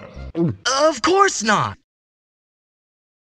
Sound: gulp

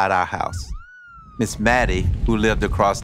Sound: sirens

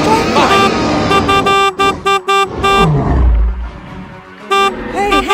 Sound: horn honking

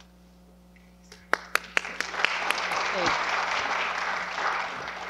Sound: applause

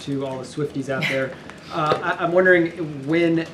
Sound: laughs

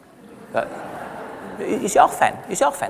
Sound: laughter from the audience

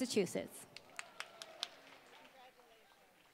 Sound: applause

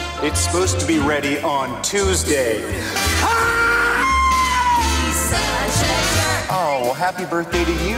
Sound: screams

